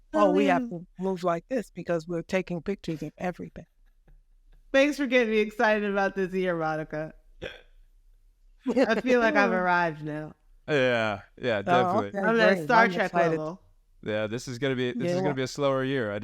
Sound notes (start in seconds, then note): 8.7 laughing